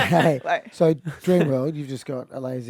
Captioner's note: group laughs